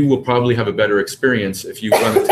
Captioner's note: cough